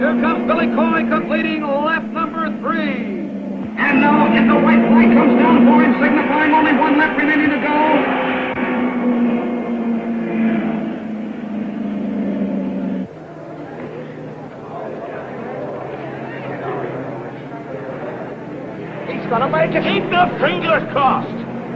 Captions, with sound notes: - Here comes Billy Coy completing lap number three. And now, it's the white flag comes down for him, signifying only one lap remaining to go. (crowd chattering) - He's gonna make it. - Keep your fingers crossed.